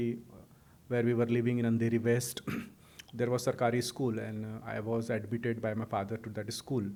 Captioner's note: clears throat